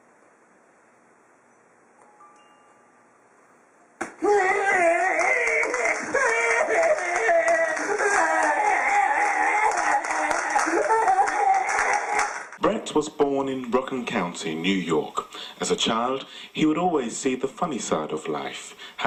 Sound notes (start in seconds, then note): 3.7 thunk; 4.1 imitation crying